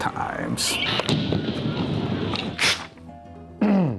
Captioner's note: loud bang